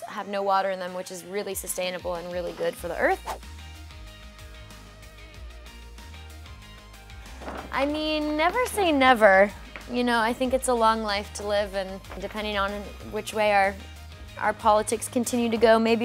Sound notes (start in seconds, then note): 3.1 whooshing